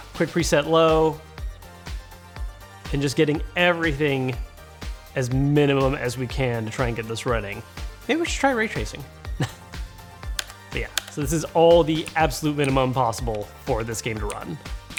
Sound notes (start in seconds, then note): 9.4 chuckles